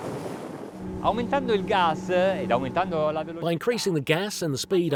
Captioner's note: speaking foreign language